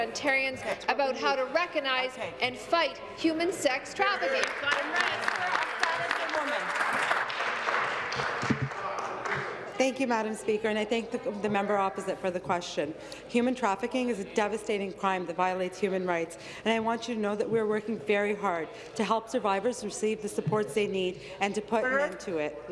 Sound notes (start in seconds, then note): 7.8 applause